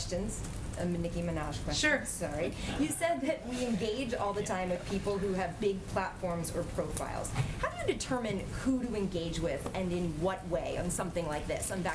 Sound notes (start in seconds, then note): 2.8 laughter